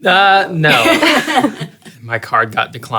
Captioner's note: all laugh